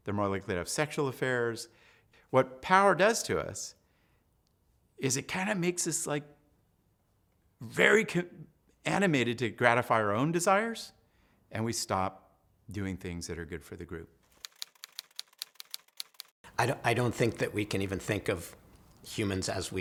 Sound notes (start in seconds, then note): 14.3 typewriter clacking